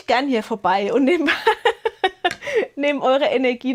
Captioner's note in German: gelächter